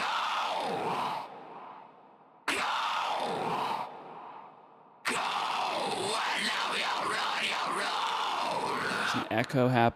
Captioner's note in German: isolated breakdown screams